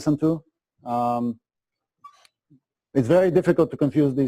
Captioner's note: pause